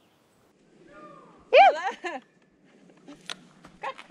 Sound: whooping

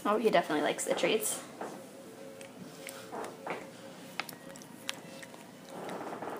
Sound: sound of cat chewing treats

